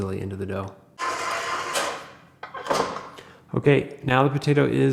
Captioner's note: mixer whirring